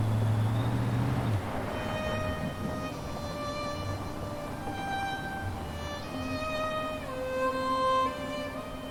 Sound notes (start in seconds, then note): 1.2 vehicle engine whirring; 2.4 gentle music